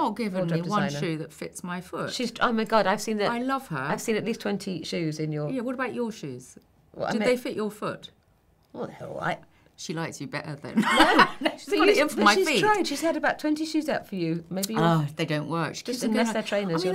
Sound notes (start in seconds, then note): 10.8 laughing